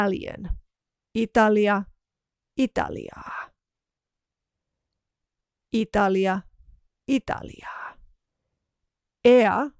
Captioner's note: Italian language